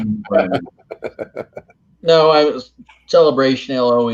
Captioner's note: laughs